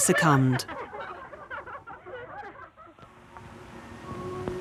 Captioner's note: women laughing